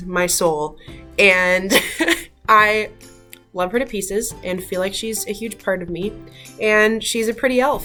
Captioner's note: laughs